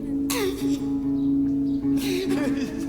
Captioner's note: sobs